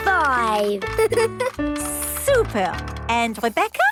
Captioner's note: giggles